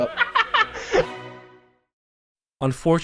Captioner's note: man laughs